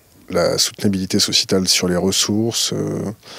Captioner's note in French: none